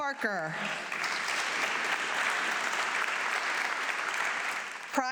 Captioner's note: audience clapping